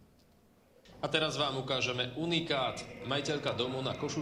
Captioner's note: voice of reporter